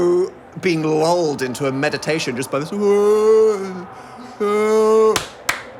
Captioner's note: yelling; claps